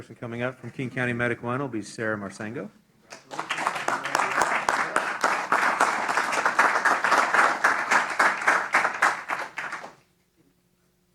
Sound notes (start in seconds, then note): 3.1 applause